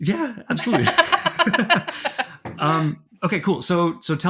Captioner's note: people laughing